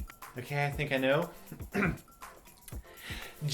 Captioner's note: cough